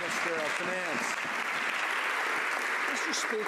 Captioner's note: some Applause